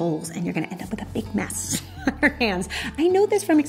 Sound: laughs

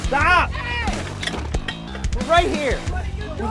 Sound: object clatters

